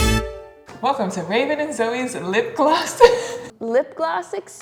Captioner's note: laughs